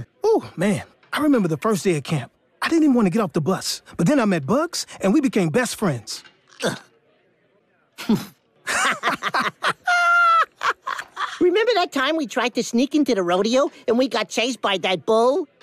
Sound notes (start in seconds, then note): 8.6 laughing